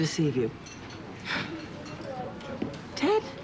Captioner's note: sighs